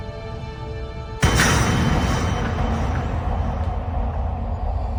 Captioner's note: metal clacking